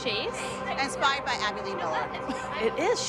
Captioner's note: laughs